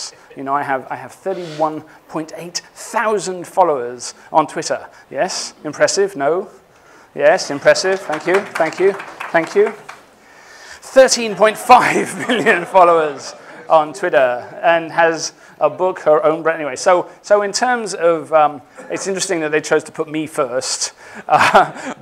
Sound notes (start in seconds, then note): 11.4 laughing